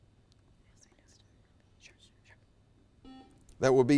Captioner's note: girls whisper; buzzer buzzes